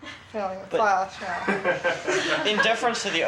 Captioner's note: several students laugh